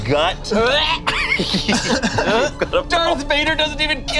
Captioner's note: gags